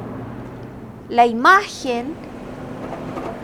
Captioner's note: sound of truck crossing